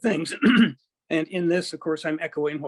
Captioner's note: clears throat